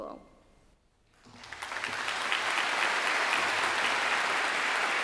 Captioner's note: audience clapping